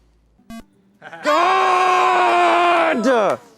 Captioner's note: electronic beep; audience exclaiming